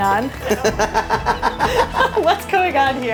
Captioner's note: laughs